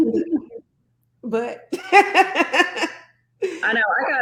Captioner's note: laughs